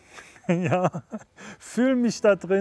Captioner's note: laughs